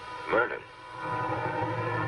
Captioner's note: police car siren